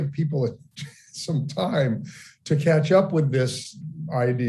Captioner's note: laughing